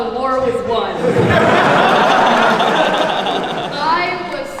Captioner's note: everyone laughs